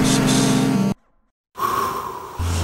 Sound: out breath

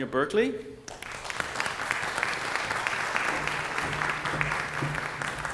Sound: applause

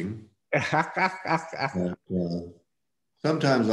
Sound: laughs

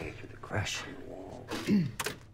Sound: clears throat

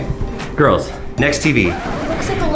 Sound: record scratch

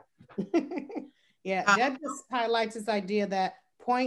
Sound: laughs

